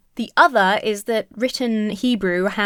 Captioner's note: none